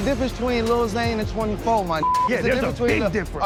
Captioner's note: beep